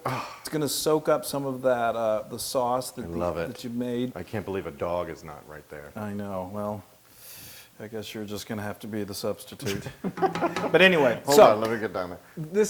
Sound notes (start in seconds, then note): 9.6 laugh